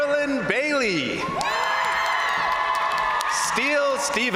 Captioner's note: crowd cheering; crowd applauding